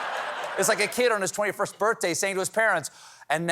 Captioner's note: laughter